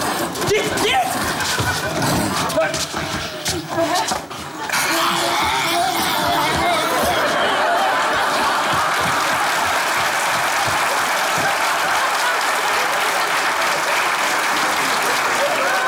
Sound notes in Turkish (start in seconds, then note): 4.7 Onları taklit eder; 7.9 Alkış sesleri